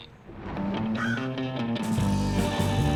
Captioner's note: grunts; thunder crashing; upbeat mysterious rock music; bird cawing